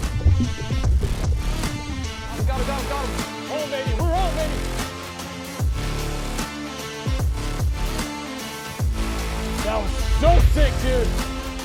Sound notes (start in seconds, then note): 4.2 excited yelling; 6.4 upbeat music continues